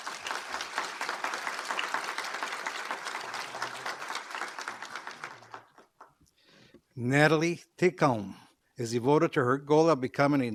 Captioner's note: applause